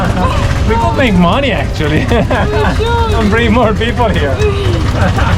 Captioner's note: laughing